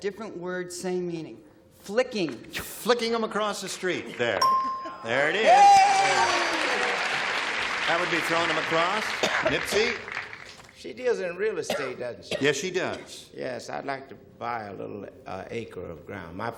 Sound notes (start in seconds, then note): 4.4 ding